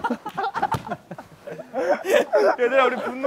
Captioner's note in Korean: 꺄르르